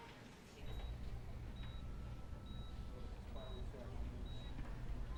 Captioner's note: monitor beeping